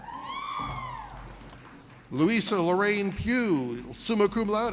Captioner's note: audience cheers